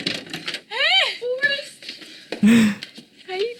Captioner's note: gasps